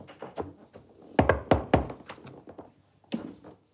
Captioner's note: knocking on door